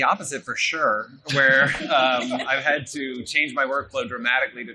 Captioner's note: laughing